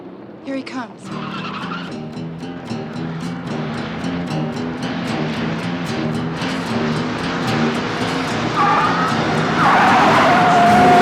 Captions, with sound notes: Here he comes. (Tyres screech)